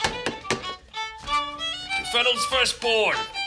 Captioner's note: tap, Tap on the table